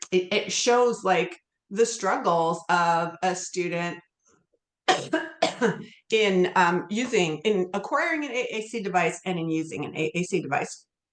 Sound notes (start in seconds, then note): 4.9 coughs